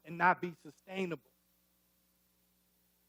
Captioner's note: none